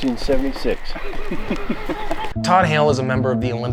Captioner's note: laughs